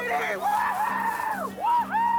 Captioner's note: cheering